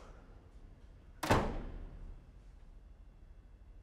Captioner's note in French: la porte se ferme